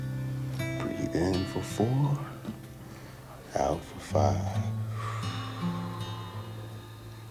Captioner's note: soft music; exhales